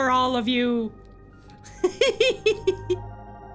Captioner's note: laughing